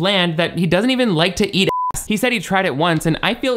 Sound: beep

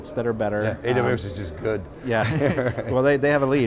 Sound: laughs

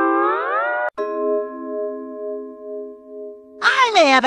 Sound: idea ding

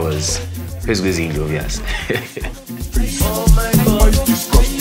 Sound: laughs

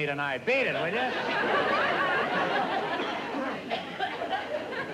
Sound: laughter

